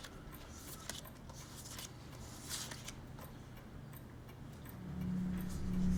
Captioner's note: paper crinkling; photos scraping; sinister music